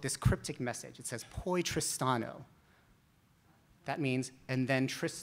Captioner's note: speaks in Italian